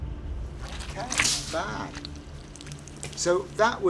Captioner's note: gelatin squelching